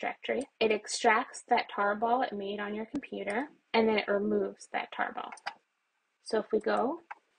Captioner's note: keyboard keys pressed; mouse sound